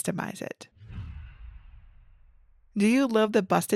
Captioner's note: image whooshes